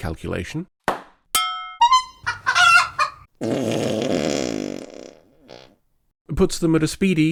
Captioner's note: pop, clang, clown horn, chicken cluck, large fart